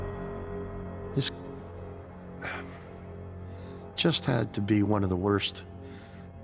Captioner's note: sighing